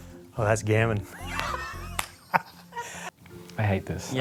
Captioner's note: laughter